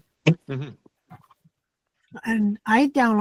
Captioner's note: laughs